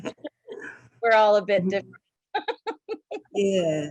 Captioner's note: laughs